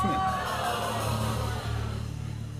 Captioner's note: audience exclaims